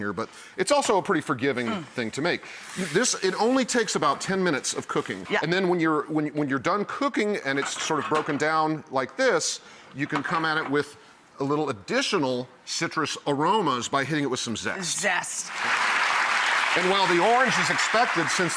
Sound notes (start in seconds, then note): 15.4 applause